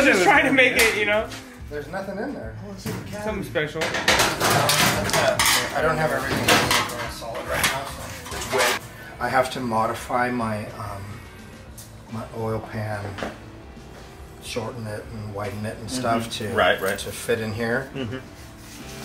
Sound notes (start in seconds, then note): 2.9 small Voice; 18.8 smooth rock music